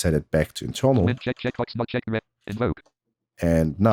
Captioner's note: automated voice